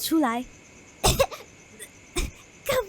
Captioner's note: cough cough cough